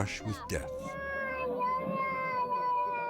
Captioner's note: baby crying; mother speaking in Chinese